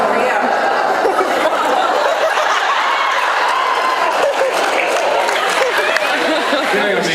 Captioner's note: laughs